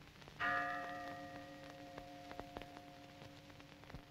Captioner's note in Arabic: رنين الأجراس